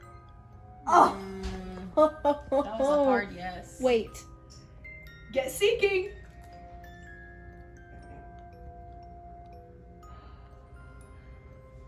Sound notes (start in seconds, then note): 1.8 laughs